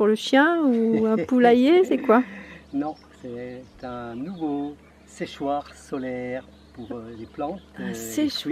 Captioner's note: laughs